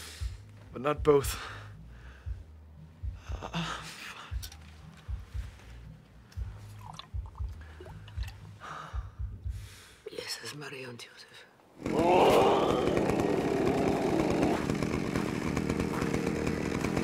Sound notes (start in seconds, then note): 11.8 moaning